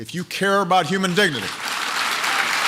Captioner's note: applause